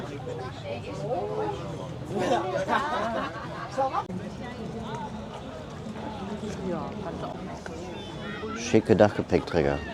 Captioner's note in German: gelächter